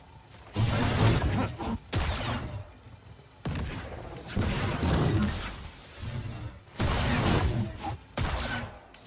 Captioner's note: gunshots